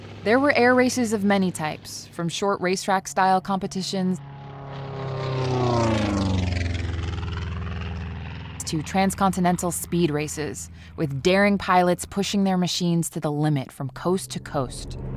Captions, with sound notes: There were air races of many types from short racetrack style competitions [plane passing by] to transcontinental speed races with daring pilots pushing their machines to the limit from coast to coast.